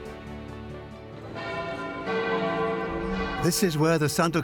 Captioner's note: church bells toll